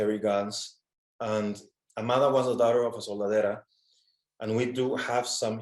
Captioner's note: speaks in foreign language